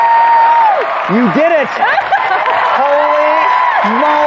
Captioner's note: cheheing